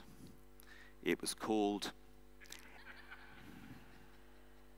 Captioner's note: audience laughing